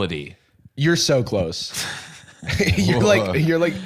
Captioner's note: bb laughing